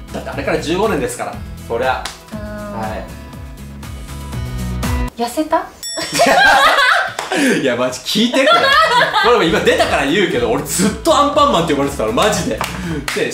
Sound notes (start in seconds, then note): 6.0 laughs